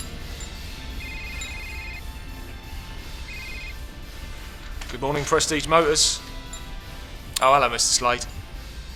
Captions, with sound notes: (phone ringing) Good morning, Prestige Motors. Oh hello Mr. Slade.